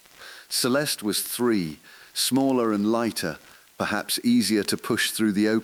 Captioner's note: exhale